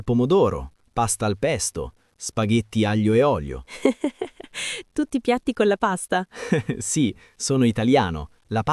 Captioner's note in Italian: risate